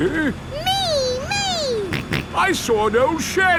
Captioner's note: snorts